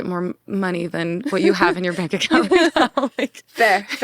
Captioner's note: laughs